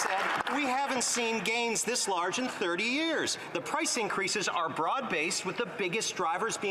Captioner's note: some Applause